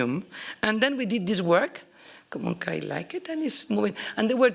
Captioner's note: italian